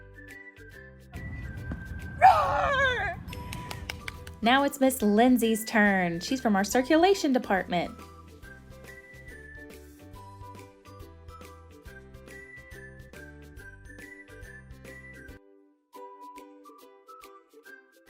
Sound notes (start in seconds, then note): 3.2 clapping from off screen